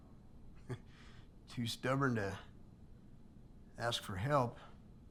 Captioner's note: chuckles